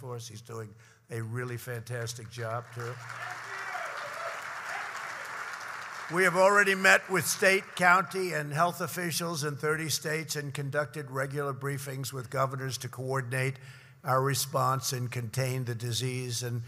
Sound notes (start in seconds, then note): 2.2 applause